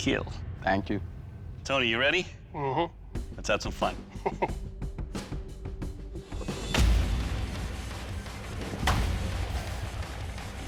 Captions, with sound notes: - Thank you. - Tony, you ready? Mhm. Let's have some fun. [chuckles] [intense rock music]